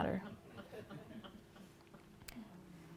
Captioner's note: laughter